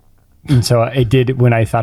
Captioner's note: chuckles